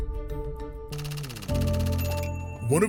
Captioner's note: tense music; typewriter clacking